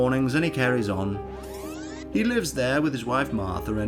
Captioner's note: fast Forward Tape Sound